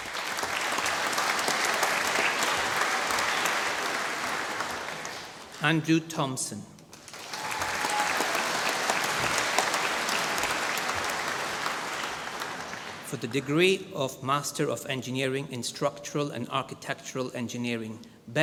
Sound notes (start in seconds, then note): 0.0 applause; 6.9 applause